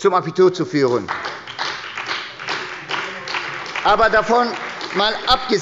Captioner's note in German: Beifall bei der SPD